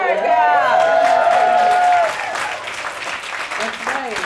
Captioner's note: cheering and applauding